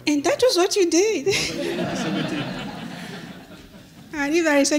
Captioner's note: laughter